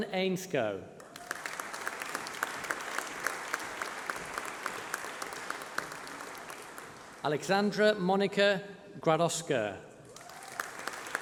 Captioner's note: applause